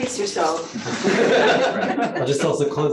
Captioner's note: laughter